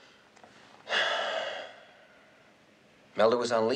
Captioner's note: sighs